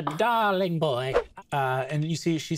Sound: swooshing sound

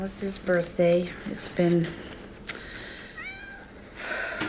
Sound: cat meows; sighs

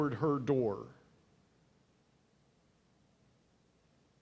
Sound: silence

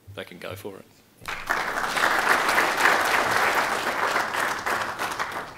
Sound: applause

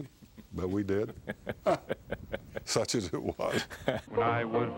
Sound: chuckles

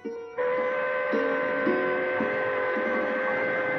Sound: train Horn Sounding

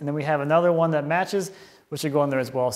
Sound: none

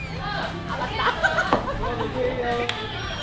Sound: hahahahahahaha

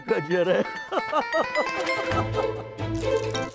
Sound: laughing

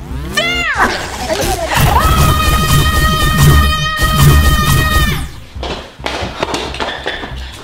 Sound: detector alarm sounding; cure blaster spraying; shouting

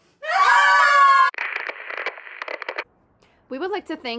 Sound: static noise

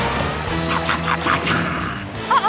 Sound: chomping

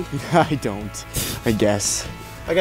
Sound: laughing

